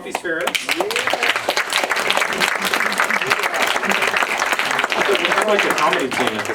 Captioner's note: applause